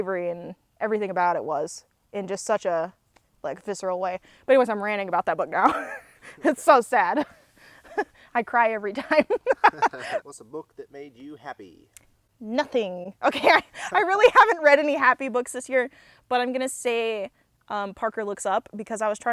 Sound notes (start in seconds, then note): 8.9 laughs